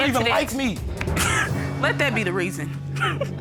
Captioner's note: chuckling